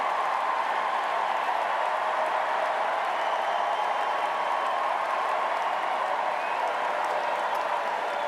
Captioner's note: cheers and applause